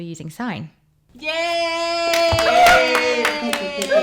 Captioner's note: monkey impression